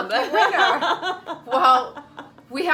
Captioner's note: laughs